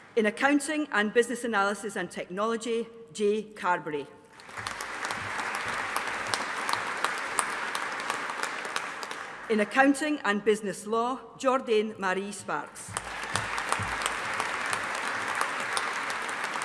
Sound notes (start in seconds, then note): 4.3 audience applauding; 12.9 audience applauding